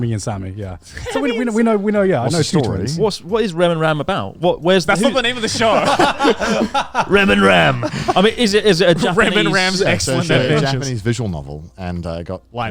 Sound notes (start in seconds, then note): 1.1 chuckling; 6.3 all laughing